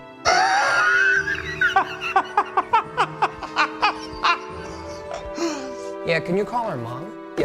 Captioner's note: laughing